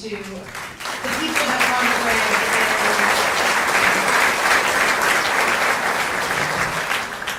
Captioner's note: applause